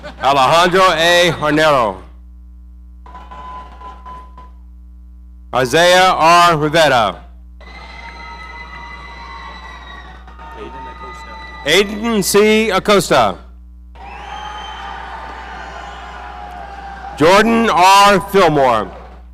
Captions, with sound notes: Alejandro A Hornero. Isaiah R. Rivera. Aiden C Acosta. (audience cheering) Jordan R Fillmore.